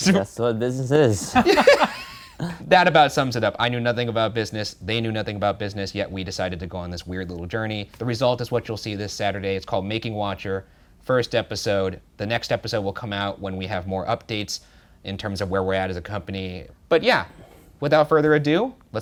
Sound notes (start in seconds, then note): 1.2 both laughing